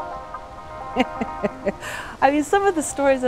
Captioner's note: laughing